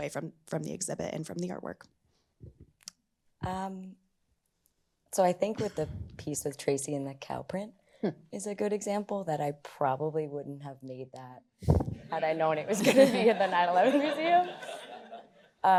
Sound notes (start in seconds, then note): 3.1 clicks tongue; 12.6 laughter